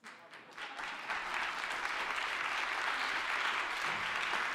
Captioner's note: audience applauding